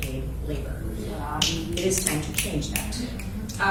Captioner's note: snapping from crowd